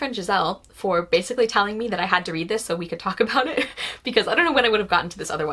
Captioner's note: laughs